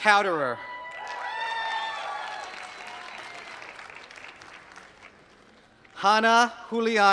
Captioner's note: applause